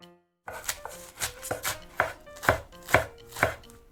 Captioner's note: tok tok tok